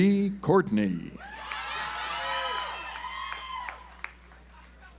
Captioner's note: audience applauds